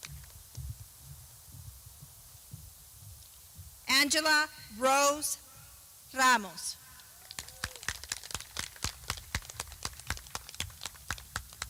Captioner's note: clapping